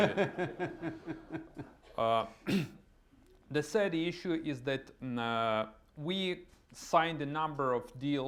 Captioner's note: laughter